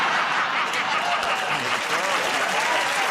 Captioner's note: laughter; applause